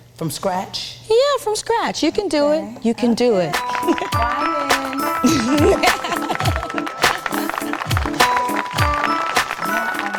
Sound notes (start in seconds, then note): 3.6 audience applauding; 5.1 chuckling; 7.1 audience applauding